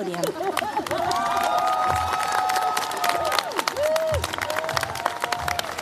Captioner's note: cheers, applause